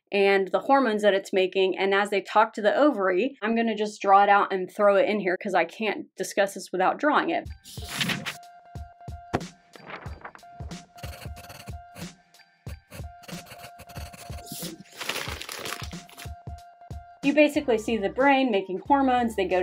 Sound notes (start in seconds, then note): 7.7 bright joyful music; 7.7 paper rustling; 10.8 marker scratching; 14.0 paper crinkles; 14.4 paper rasping